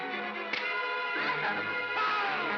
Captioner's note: suspenseful music; crack; Bogeyman screams